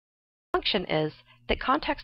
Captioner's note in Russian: Звучит фраза на английском